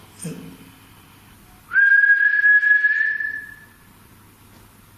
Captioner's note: whistling